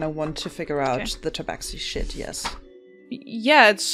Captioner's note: papers rustling